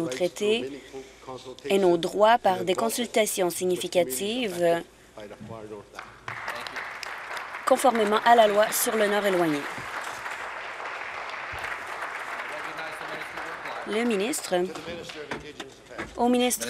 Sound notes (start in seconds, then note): 9.4 applause